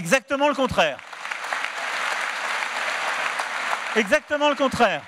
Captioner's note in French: Applaudissements